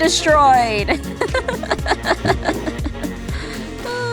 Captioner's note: pained Laugh